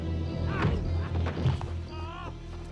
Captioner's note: log thuds; Percey yells